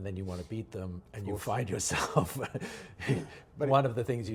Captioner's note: chuckles